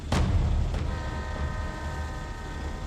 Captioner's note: train horn